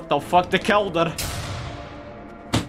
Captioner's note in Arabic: بوم بوم